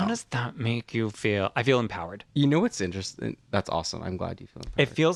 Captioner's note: laugh